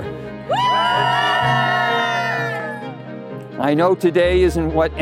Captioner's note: cheering